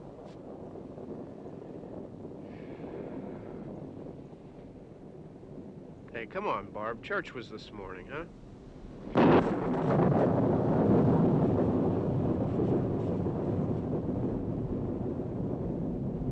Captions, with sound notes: (distant thunder) Hey, come on, Barb. Church was this morning, huh? (thunder rumbling)